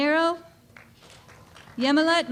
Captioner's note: applause